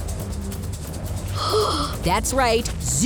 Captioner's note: gasping